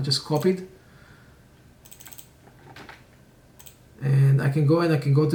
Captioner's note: mouse clicking